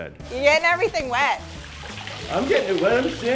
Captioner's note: water pouring